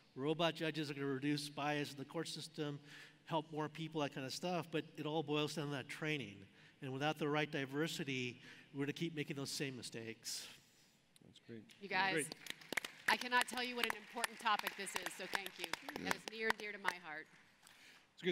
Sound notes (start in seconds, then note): 12.1 applauding